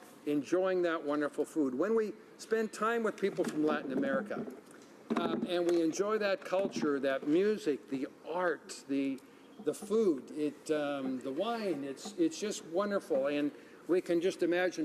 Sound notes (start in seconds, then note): none